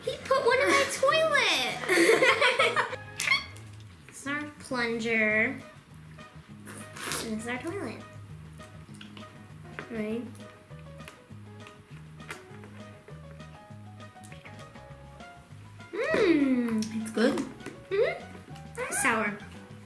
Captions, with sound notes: He put one in my toilet! (laughter) Our plunger, this is our toilet. Ready? Mm! It's good! It's sour.